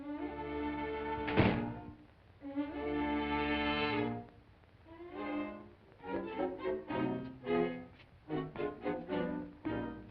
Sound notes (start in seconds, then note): 1.2 door closes; 4.3 suspenseful music